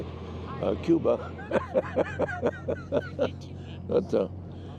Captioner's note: chuckles